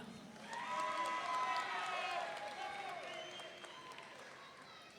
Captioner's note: audience cheering